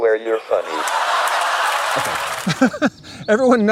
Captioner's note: audience laughs